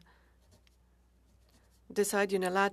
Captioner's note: speaking French